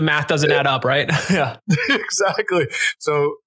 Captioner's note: laughs